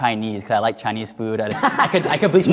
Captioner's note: laughs